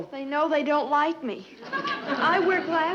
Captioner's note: audience chuckling